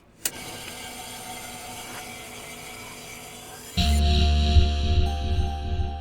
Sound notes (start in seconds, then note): 0.0 a click, then static; 3.8 heavy guitar: BAAAAAOOOW! ...BAAAAAOOOW!